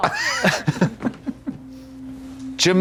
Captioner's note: blonde Women titter